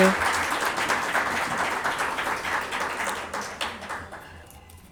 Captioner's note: audience clapping hands